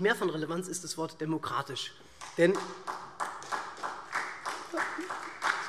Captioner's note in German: Beifall SPD